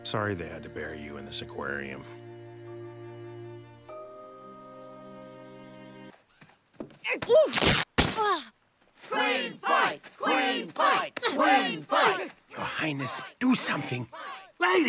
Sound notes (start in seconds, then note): 3.1 somber music; 8.1 body thuds; 10.2 crowd